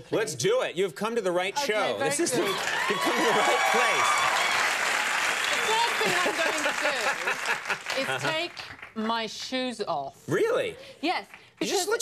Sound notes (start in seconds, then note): 2.2 audience cheers